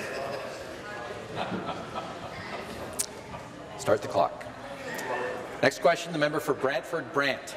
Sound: conversation din

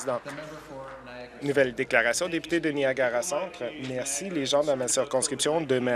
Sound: some Applause

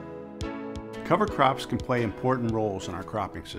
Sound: voiceover

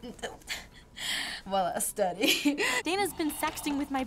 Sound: chuckles

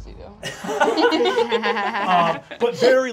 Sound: group laughs

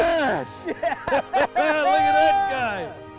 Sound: both laughing

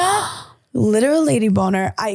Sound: gasping

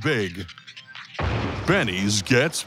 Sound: crash

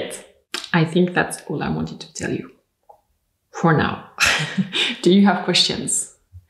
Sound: laughs

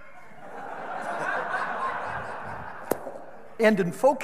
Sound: audience laughing

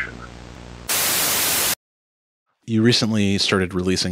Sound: TV static buzzes

